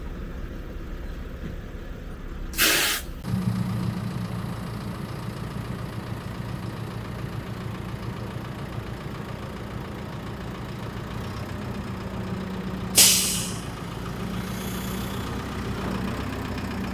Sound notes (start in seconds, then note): 3.2 machine hums